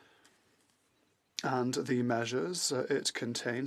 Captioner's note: speaking French